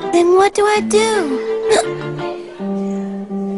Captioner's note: hiccups